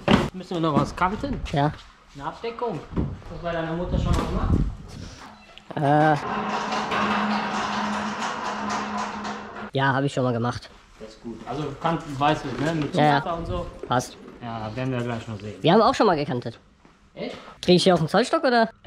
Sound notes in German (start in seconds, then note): 6.2 rollergeräusche